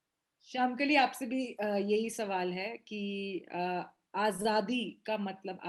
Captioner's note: speaks foreign language